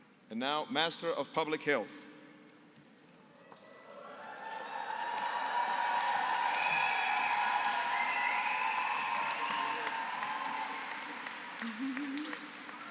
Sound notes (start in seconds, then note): 4.2 applause, cheering